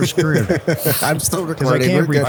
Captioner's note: laughs; people laughing